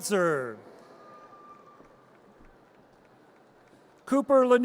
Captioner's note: audience cheers